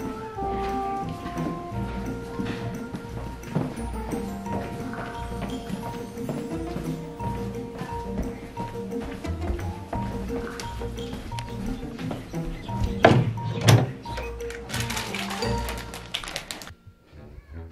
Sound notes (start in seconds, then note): 13.0 drawer opening; 14.2 bag crinkling; 17.4 mischievous music